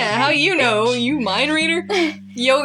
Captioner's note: chuckle